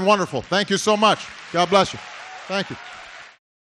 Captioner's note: applause